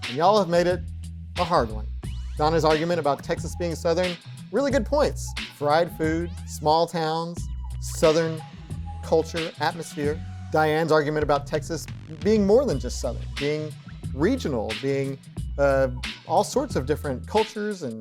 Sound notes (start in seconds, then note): none